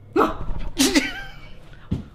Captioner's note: grunts